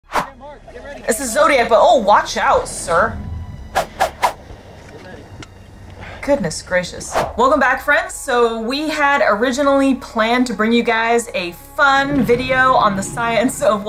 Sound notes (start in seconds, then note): 0.0 people in clip shouting; 3.7 sound effects; 4.5 background music